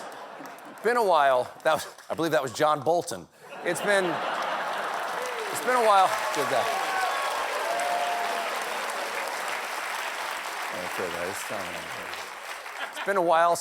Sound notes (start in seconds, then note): 0.2 laughter; 9.7 applause